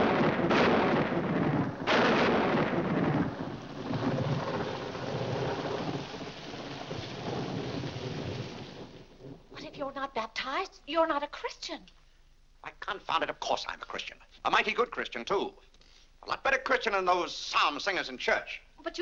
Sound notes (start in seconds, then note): 0.0 loud thunder; 3.6 rain falling